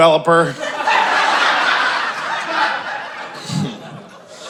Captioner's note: audience laughing